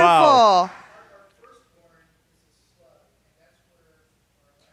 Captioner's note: man speaking off mic